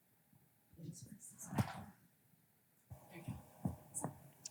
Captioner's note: whispering